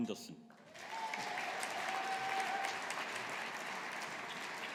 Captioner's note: audience applauding